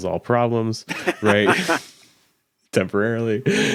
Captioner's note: laughing